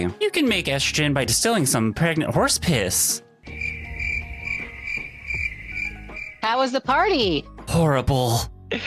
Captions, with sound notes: You can make estrogen by distilling some pregnant horse piss. (crickets chirping) How was the party? Horrible.